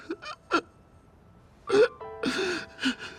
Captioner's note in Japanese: 笑い